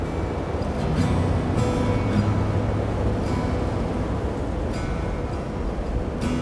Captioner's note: string music continues; wind blowing